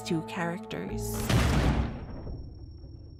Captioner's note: gunshot sound